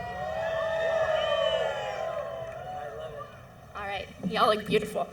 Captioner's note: cheering